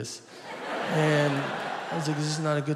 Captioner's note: audience laughing